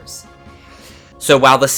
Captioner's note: breathe